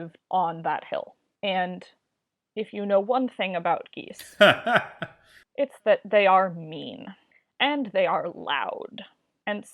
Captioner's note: laughs